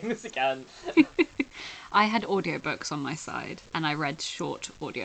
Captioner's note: laughs